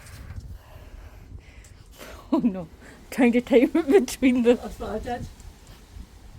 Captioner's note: deep breath